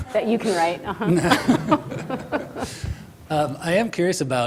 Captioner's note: laughs